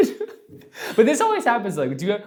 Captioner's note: laughs